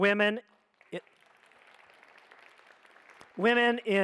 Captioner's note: audience applauds